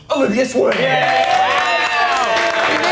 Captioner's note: contestants cheering